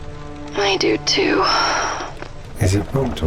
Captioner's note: heavy sigh